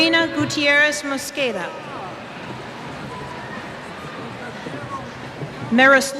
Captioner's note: cheers